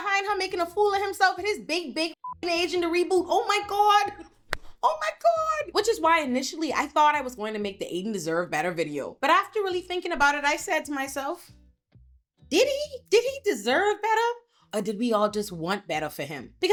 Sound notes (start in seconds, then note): 2.2 beep